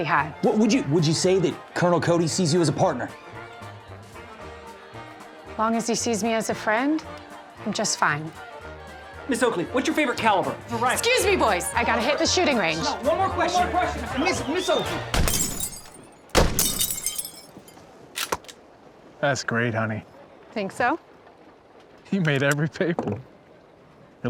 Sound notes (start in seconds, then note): 15.1 bottle shatters; 16.3 gunshot; 16.6 bottle shatters